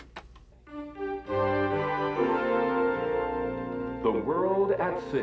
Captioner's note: click click